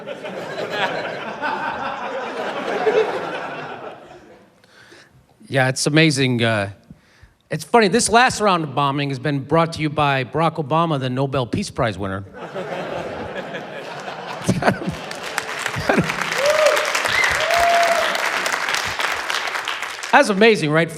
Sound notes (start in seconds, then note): 0.0 laughter; 12.4 laughs; 14.7 applause, cheering